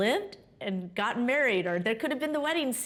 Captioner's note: none